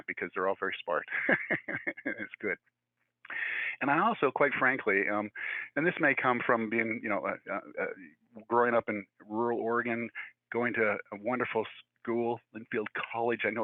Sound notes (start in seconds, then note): 0.8 speaker laughing